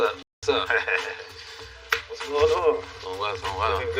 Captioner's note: laughs